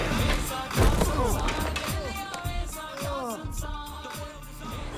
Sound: groaning

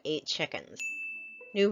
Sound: ding!

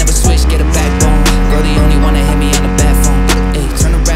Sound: brr

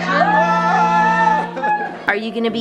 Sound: laughing

